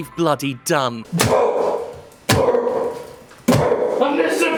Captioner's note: hammer banging; grunting